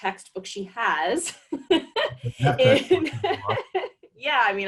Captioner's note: laughs